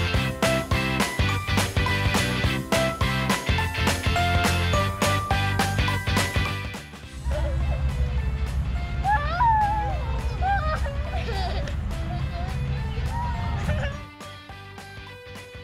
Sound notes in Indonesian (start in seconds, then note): 7.1 Ketawa